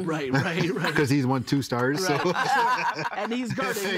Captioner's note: all laughing